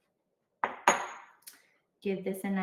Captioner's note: bowl clinking